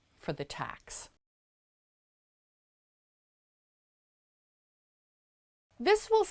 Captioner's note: no Sound Present